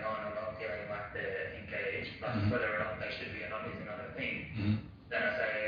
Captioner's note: audio distorts